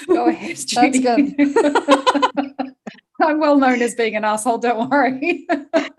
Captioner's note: laughter